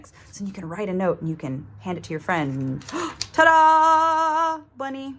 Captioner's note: gasp